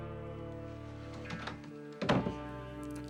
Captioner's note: door closes